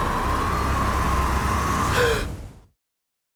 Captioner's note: Carl gasping